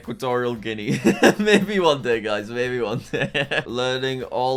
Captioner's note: laughs